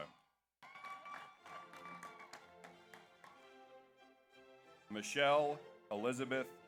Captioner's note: audience cheers; audience applauds